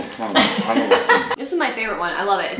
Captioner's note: laughing